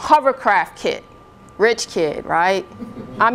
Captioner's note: laughter